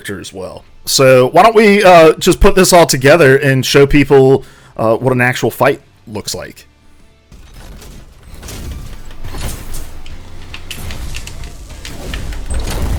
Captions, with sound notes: So, why don't we just put this all together and show people what an actual fight looks like? (rock music) (explosive game effects)